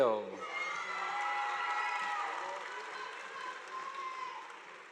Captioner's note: audience applauding